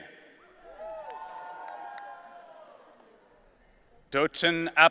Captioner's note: audience cheering